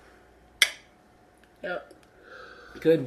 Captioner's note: clinking